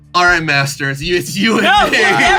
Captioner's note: laughs